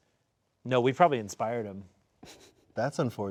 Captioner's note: snickering